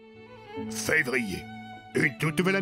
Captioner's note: voice-over